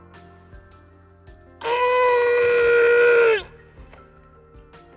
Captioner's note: growling